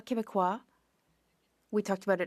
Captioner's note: speaking French